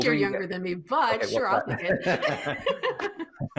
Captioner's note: laughing